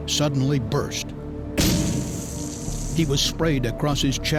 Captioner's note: hissing sound